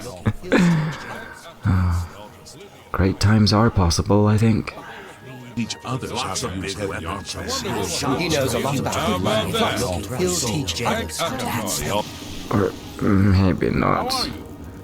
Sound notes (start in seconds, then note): 0.0 narrator chuckles; 5.2 bar patrons chat incessantly; 12.8 drunkenly